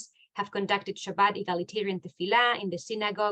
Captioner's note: speaking in foreign language